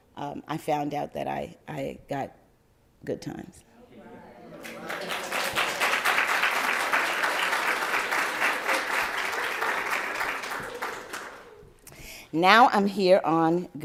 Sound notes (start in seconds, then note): 4.6 applause